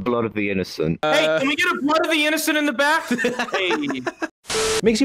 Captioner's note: laughs